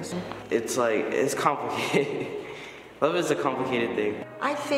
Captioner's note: laughs